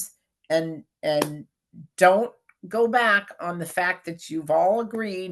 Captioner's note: claps hands